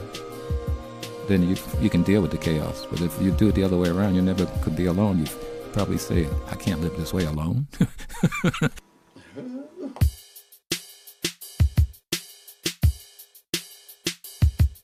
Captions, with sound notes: Then you can deal with the chaos. But if you do the other way around, you never could be alone. You'd probably say, I can't live this way alone. (laughing) (upbeat music)